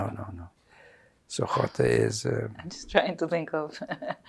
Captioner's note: laughing